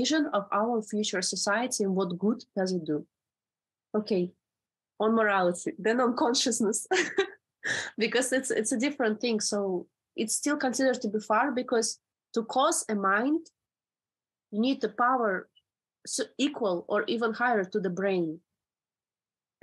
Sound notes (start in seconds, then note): 6.6 laughs